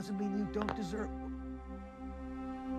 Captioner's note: line clicks